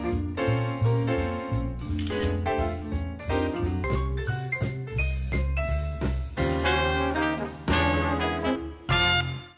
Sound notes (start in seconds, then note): 1.9 camera clicks; 2.7 lively jazz music